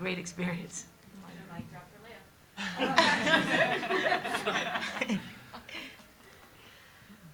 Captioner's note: everyone laughing